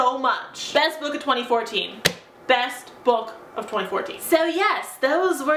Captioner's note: slaps book for emphasis